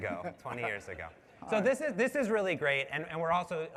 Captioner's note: laughter